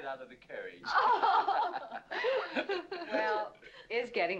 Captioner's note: women laughing